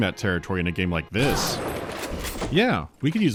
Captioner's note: blam